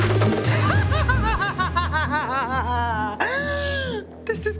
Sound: cackles

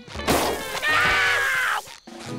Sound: screaming

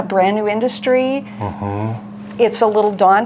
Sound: hums

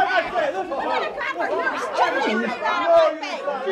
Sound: shouting

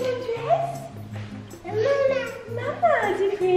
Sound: baby babbles

